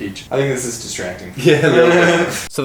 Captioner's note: laughs